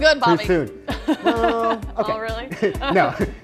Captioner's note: laughs